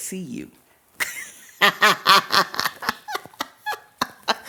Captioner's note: laughs